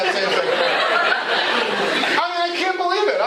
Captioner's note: laughter